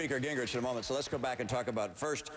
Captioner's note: applause